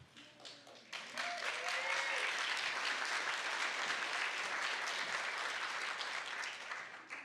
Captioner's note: applause